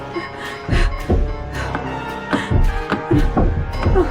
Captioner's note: banging on window